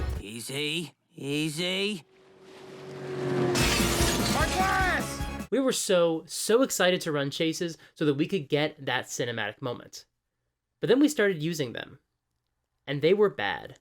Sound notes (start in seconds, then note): 2.1 crash